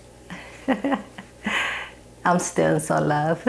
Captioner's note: chuckling